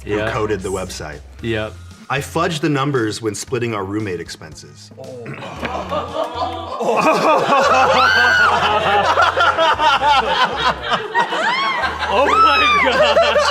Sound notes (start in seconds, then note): 7.8 screams; 9.6 everyone laughs